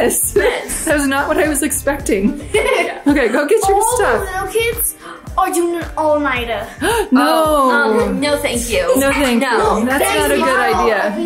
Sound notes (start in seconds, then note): 2.2 laughs; 6.6 gasps